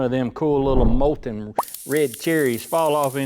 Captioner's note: whooshing